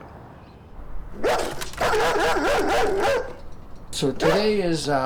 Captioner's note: dog barking and scratching